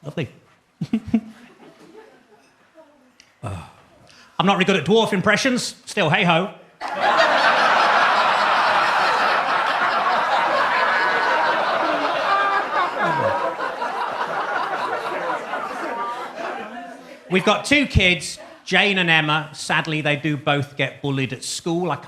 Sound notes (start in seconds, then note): 0.8 laughs; 7.5 audience laughs